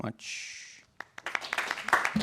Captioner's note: applause